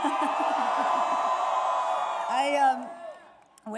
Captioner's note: applause